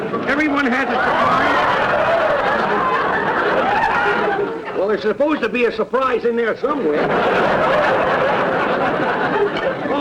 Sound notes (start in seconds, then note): 0.0 audience laughter; 6.6 audience laughter